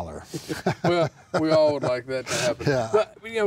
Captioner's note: laughing